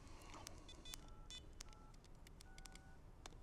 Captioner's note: keypad clicking